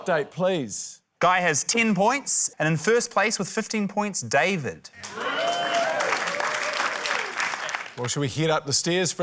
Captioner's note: cheering, applause